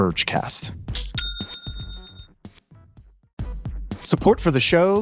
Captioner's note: bell dinging